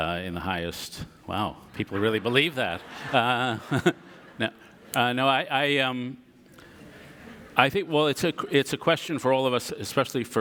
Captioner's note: audience laughter